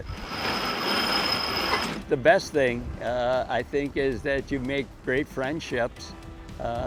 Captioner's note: metal ringing